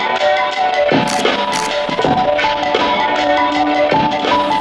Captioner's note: playful music; camera clicking